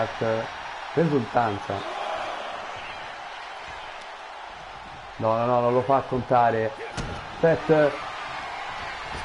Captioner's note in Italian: Applauso